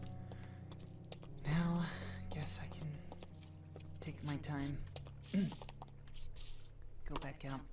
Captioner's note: ahem